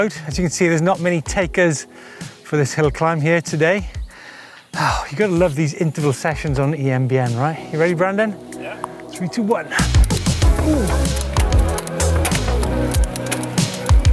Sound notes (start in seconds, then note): 4.0 sighing; 10.4 chilled electronic music